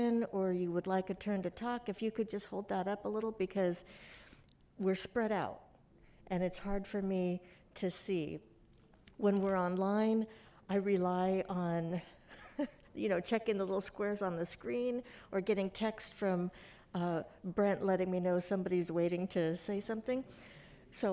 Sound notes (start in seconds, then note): 12.3 giggling